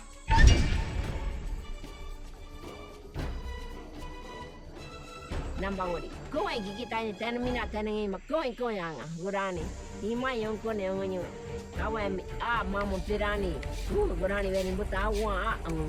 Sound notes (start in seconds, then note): 1.6 tense music; 5.6 speaking in foreign language